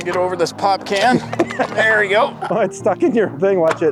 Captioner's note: pop can crunches